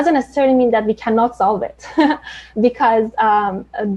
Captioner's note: chuckles